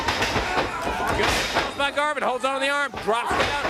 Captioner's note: crowd cheering